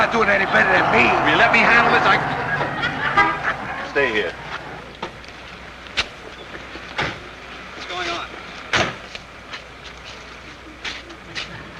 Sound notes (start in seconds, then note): 3.3 audience chuckling; 3.3 horn honking